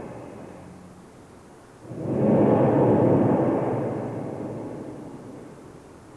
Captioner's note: shri mataji blows into the microphone